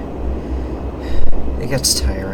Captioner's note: sigh